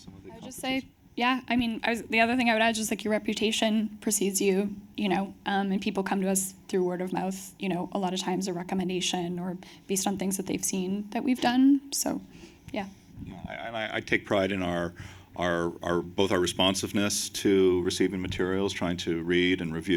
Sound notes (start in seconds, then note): none